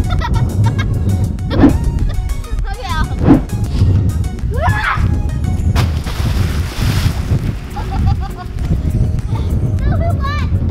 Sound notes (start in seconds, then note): 0.0 girl continues laughing; 5.7 splash; 7.7 dad laughs